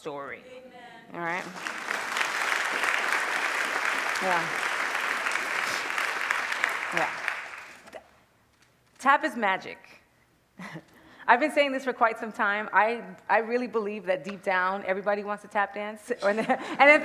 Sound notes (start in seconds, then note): 1.4 applause